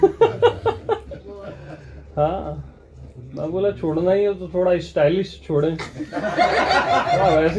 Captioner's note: chuckle